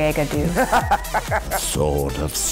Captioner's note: laughs